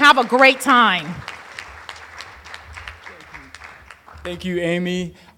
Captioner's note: applause